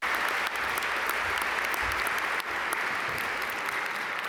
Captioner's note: audience applaud